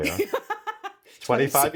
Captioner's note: Nikki laughs